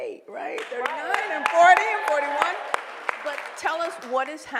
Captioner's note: applause